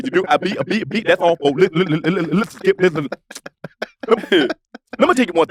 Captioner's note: lips click